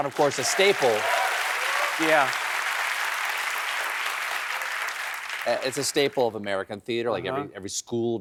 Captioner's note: applause